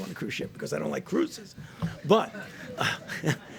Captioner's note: laughter